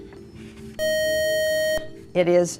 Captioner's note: beeping